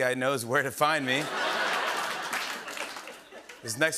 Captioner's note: laughter and applause